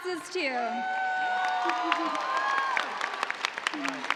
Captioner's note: cheers and applause